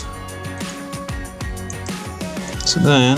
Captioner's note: mouse clicks